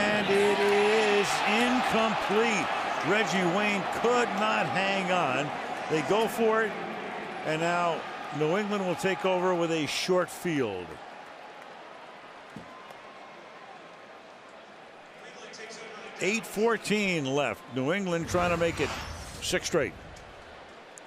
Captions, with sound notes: And it is incomplete! Reggie Wayne could not hang on. They go for it. And now, New England will take over with a short field. [pa announcement] 8:14 left. New England trying to make it six straight.